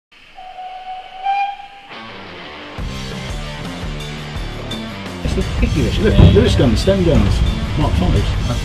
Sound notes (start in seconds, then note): 0.3 train whistles